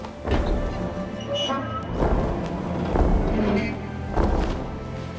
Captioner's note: door squealing; somber pan flute music